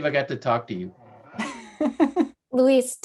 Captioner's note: laughing